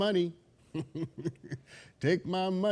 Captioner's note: laughs softly